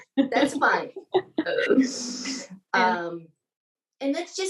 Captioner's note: both laughing